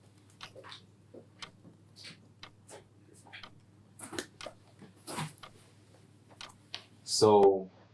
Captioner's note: clock Ticking